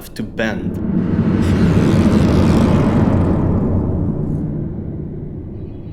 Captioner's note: creaking sounds